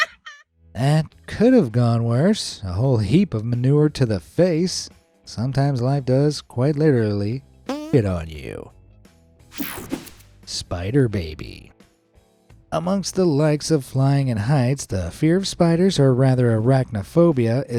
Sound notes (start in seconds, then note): 7.7 farts